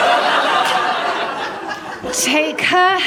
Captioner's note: laughter